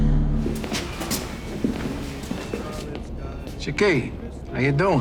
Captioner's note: low tense music continues; footsteps padding